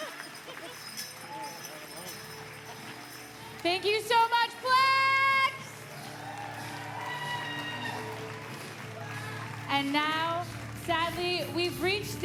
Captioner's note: applause